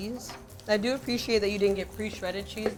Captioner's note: food sizzling